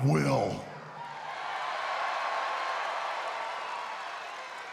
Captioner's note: crowd cheering